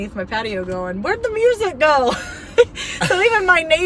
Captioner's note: laughing